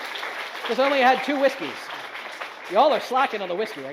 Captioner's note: audience applauds